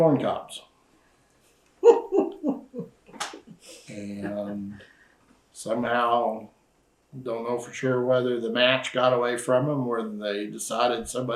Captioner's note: laughter